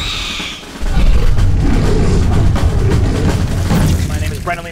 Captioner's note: owl Bear screech; roar